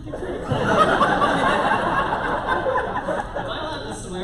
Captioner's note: laughter